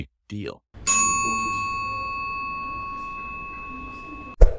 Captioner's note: elevator dinging